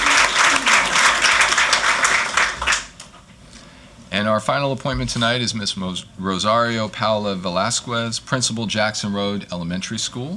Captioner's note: applause